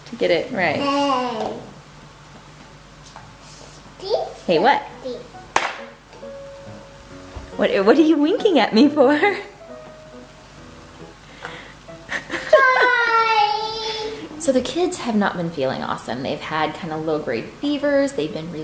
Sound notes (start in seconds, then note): 12.1 laughs; 12.5 female toddler squeals